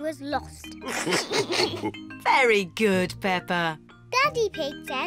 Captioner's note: all laugh